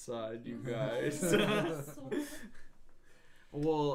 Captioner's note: laughing